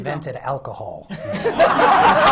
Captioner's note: laughter